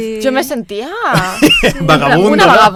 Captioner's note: laughing